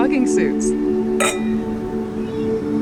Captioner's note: glasses clink